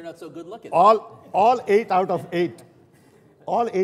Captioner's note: laughter